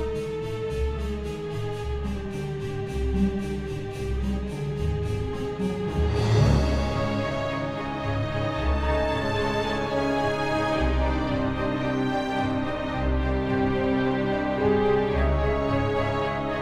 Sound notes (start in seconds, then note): none